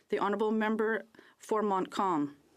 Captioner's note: speaking French